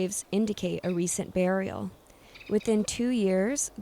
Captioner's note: animal chitters